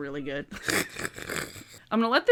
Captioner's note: laughs